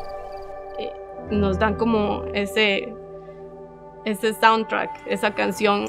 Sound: speaking Spanish; speaking Spanish

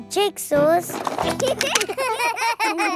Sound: laughter

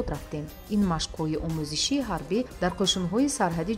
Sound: journalist narrating in tajik

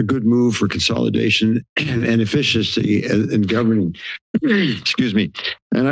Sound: coughs

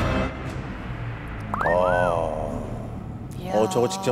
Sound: exclaiming

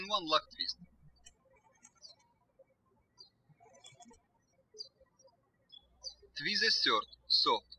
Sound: birds chirping

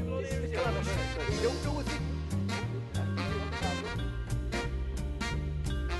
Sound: chatting

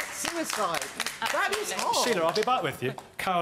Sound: audience applauds

